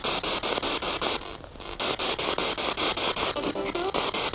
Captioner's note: noise of the spiritbox in the background